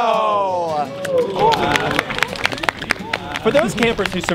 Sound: clapping

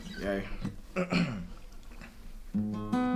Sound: Kit clearing throat

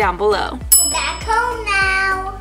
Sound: bell dings

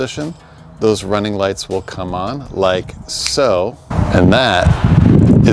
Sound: snaps

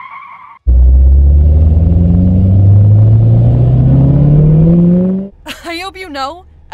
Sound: car revs

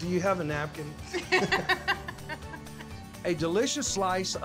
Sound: laughter

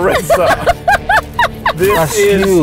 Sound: laughing

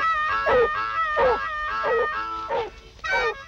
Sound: barking

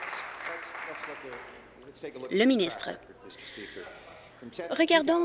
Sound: applause

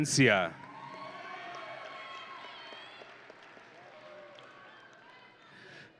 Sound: audience and graduates cheering

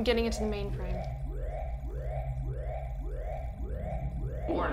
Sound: alarm blaring; computer trilling

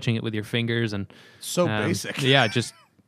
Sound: laughter

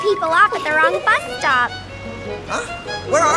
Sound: giggling

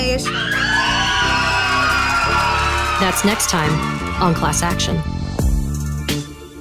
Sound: cheers, screams of joy, applause

